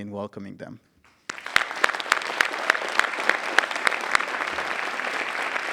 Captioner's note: audience applauding